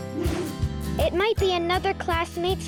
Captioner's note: air whooshing